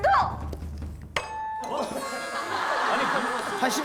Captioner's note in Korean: 땡 소리